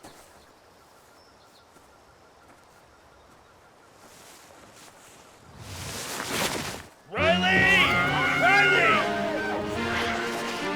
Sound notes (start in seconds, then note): 5.6 earth ripping; 7.1 Riley screams